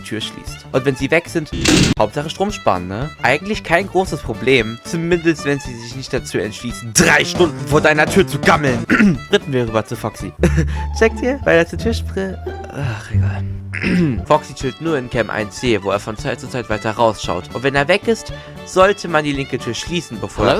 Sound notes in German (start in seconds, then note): 8.8 räuspert; 10.4 kichert; 13.7 räuspert